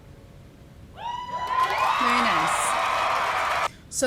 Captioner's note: audience cheers